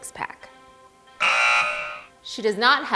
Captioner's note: alarm ringing